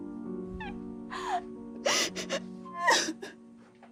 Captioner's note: soft piano music; crying